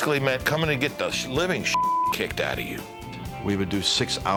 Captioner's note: beep